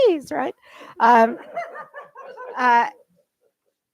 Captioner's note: laughter